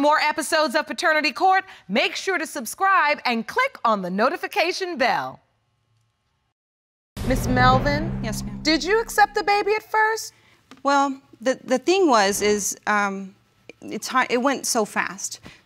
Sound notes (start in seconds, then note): none